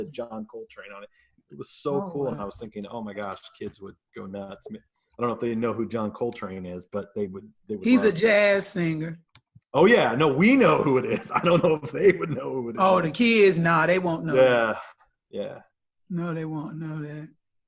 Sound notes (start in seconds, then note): 11.7 laughs